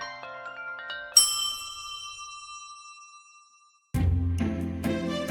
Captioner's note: gentle music; glass ringing; gentle music